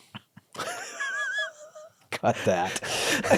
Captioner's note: both laughing